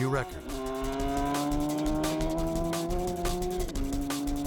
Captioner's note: engine roars